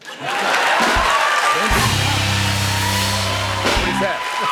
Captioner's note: cheers and applause